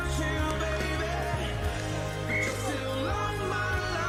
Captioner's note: peluit berbunyi